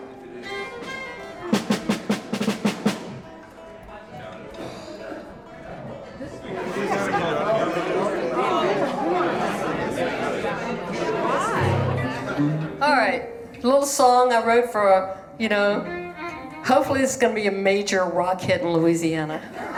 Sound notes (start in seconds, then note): 1.5 instruments warming up; 6.5 indistinct chatter